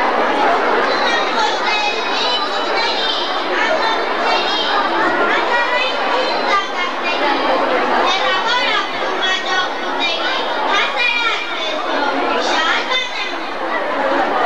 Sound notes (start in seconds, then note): 1.1 children reciting some poetry